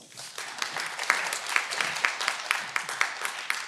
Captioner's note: cheering